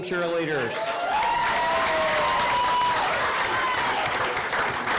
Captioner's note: audience cheering